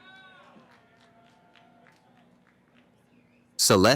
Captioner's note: cheering